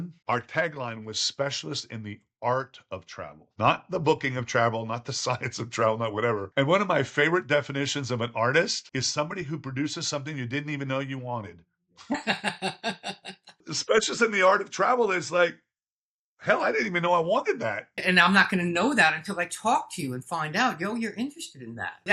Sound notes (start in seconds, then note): 13.7 Andrew laughing